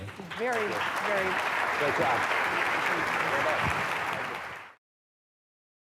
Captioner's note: audience applauding